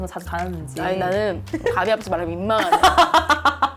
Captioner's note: revving up engine